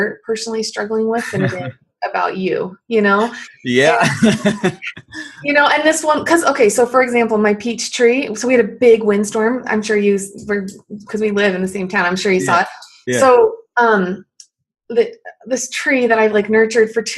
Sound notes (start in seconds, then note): 3.2 laughs